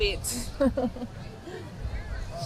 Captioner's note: laughing